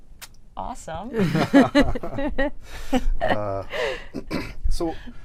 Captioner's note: laughter